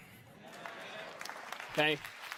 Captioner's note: audience applauding